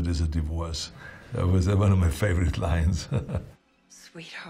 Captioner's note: chuckling